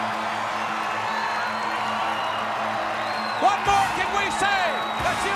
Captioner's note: crowd cheering